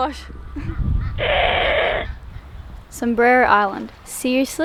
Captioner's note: bird screeches